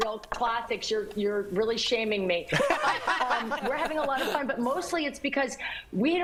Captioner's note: laughter